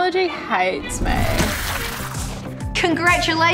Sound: splash

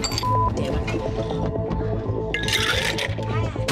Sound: beeping

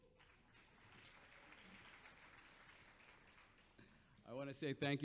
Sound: audience applauds

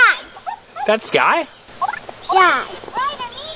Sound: voiceover

